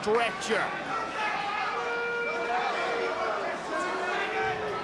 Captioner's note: spectators cheering